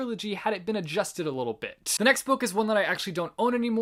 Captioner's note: none